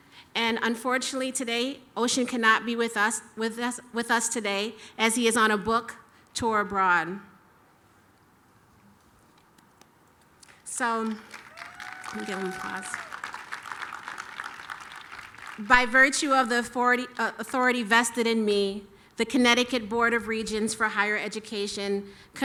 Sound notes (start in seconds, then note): 10.4 applause